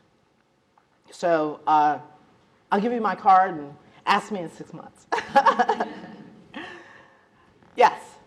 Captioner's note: laughs